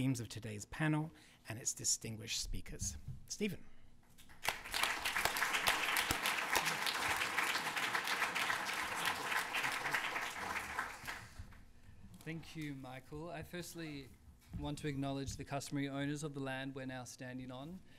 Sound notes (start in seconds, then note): 4.2 applause